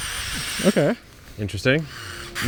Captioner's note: auger whirring